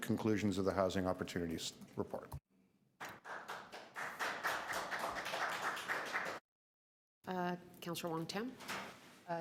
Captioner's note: applause